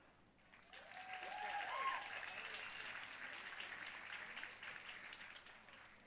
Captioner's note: audience cheering and applauding